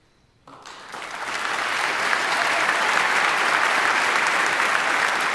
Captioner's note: audience applauding